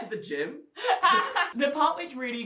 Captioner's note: laughing